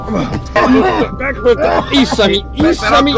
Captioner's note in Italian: tossisce sempre peggio